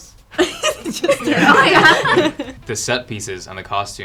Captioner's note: all laughing